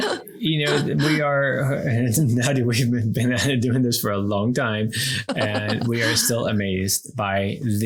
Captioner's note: everyone laughs; laughs